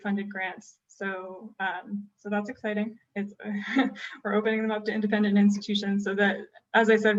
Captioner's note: laughter